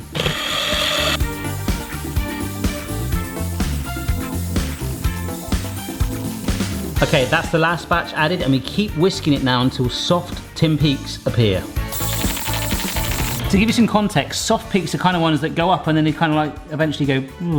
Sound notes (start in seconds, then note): 0.0 whisk whizzing; 2.8 upbeat music; 11.8 upbeat music; 11.9 whisk whizzing